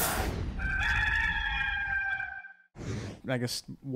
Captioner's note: rooster crows